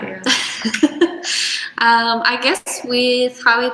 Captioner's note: laughs